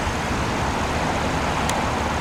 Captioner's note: traffic Noise